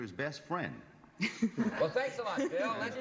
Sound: laughter

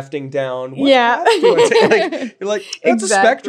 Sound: laughs

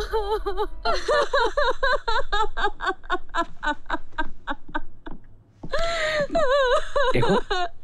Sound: wailing

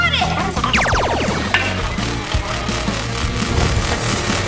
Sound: ray beam blazing

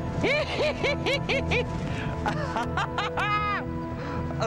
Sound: laughs and cheers

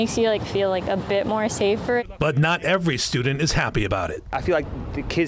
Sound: laughs

